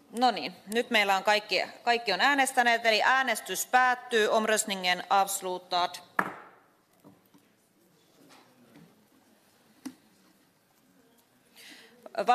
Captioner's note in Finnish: nuijan kopautus